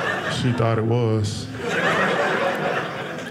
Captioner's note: audience laughing